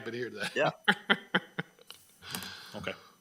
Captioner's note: member laughing